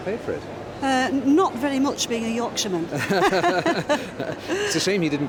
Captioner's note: laughs